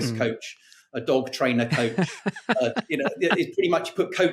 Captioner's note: laughing